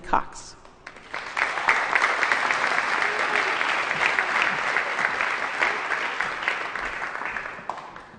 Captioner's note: applause